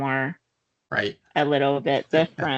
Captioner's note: laughing